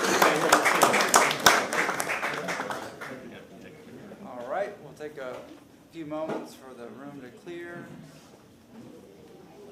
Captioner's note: applause